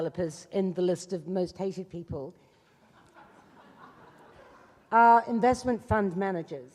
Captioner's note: laughing